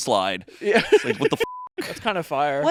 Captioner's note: beep